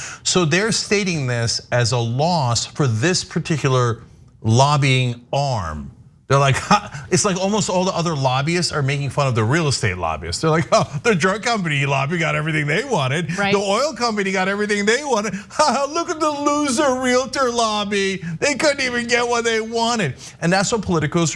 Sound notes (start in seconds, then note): 15.5 laugh